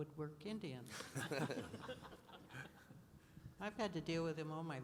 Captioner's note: laughing